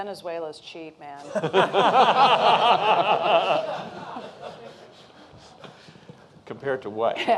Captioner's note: laughter